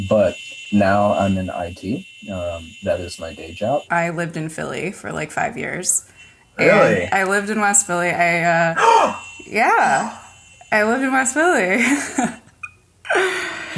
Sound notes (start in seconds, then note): 8.7 gasps; 11.4 laughs